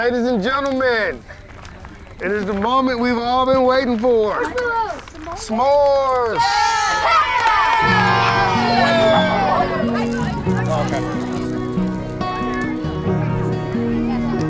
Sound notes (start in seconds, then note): 6.0 students cheering; 10.6 cheerful guitar music